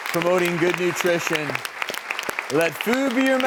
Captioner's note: audience claps